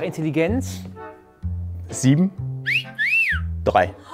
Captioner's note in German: Pfiff